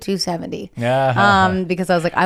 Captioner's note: laughs